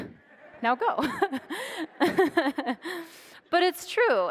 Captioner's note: audience laughs